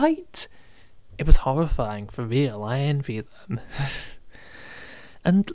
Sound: laughs

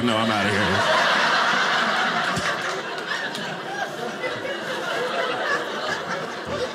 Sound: audience laughing

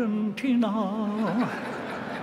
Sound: laughter

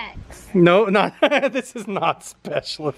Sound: laughs

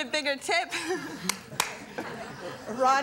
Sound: soft laughs; audience laughs

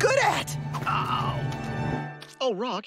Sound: groaning

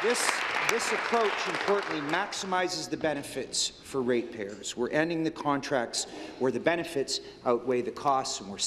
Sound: applause

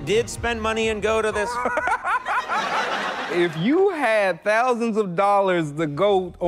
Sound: audience laughs; laughs

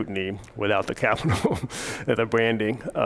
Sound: laughs

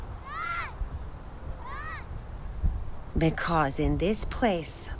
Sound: child shouts

